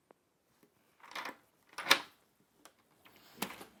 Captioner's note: lock clicking